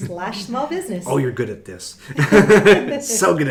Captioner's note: laughing